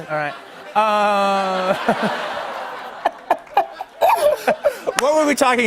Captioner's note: laughter